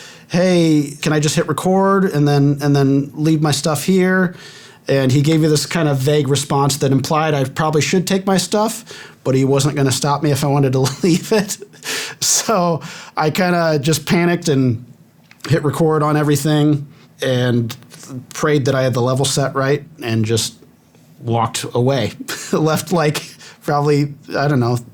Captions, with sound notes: hey, can I just hit record and then, and then leave my stuff here and he gave me this kind of vague response that implied I probably should take my stuff, but he wasn't going to stop me if I wanted to leave it. [laughing] So I kind of just panicked and hit record on everything and prayed that I had the level set right and just walked away, left like probably, I don't know,